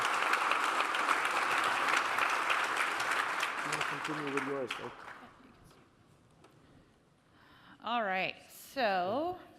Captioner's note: applause